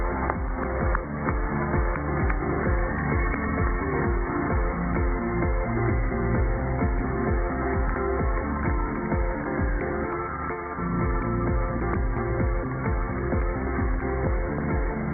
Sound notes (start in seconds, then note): 0.7 cheers and applause